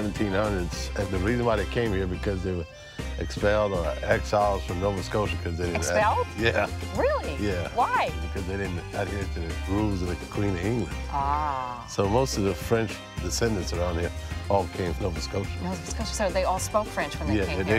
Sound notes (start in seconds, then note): 5.7 laughs